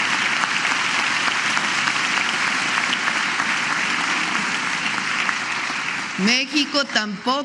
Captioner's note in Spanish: aplausos